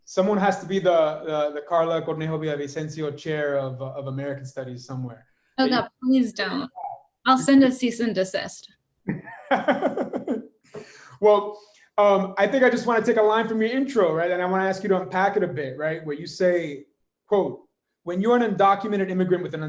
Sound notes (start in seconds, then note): 9.0 laughing